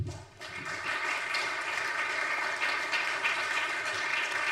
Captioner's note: audience applauds